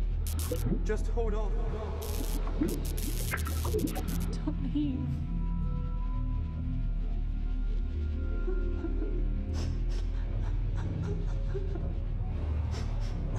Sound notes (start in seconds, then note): 2.0 static screeching; 2.0 bubbling